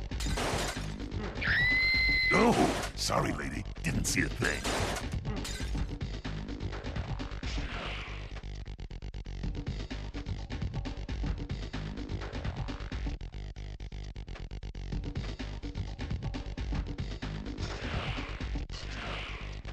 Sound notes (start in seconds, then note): 1.4 A woman screams loudly